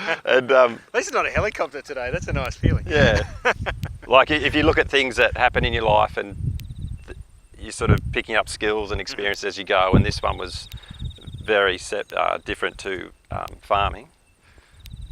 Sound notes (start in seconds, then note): 2.8 laughs